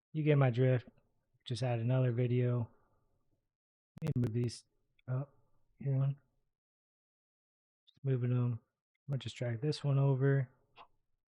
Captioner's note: static